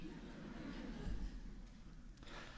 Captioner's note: laughter